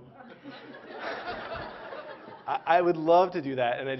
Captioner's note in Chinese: Laughter; 笑聲